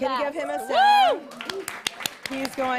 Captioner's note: applause